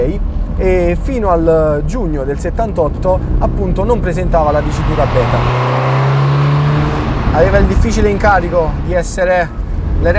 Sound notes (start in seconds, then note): 5.4 engine revving